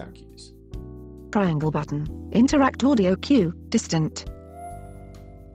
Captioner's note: text to speech